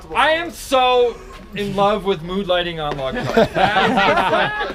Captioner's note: laughs